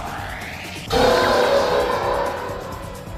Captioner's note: infintiy roar